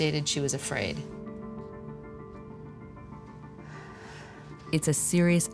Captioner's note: sighs